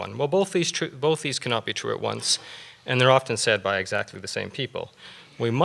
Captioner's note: none